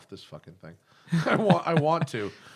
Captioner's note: laughter